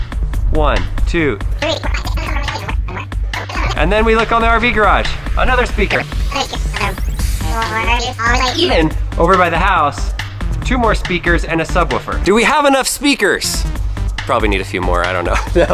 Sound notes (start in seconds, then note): 1.6 continues counting fast speed; 6.3 voice plays fast